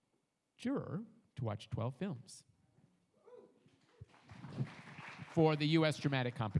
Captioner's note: audience applauds